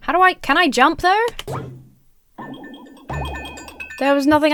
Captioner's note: jump pad warbles; capsule warbles